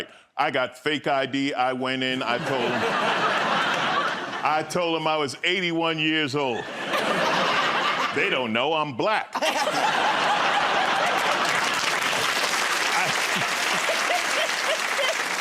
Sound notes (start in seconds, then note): 6.5 laughter; 9.3 laughter; 11.9 applause